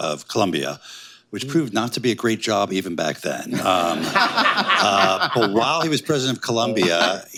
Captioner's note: laughter